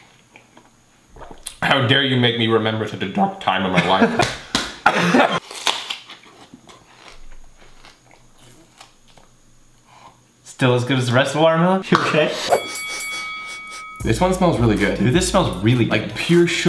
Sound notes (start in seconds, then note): 4.2 slapping; 4.8 coughing; 5.4 crunching; 12.5 bell ringing three times